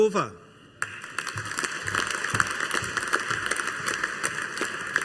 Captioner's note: audience applauding